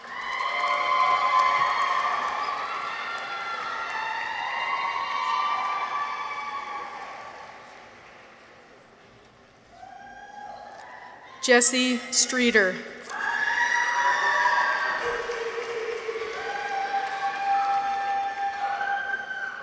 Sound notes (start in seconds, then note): 0.0 people cheer; 0.0 audience applauds; 13.0 people cheer; 13.8 audience applauds